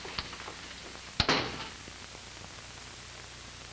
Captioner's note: door closes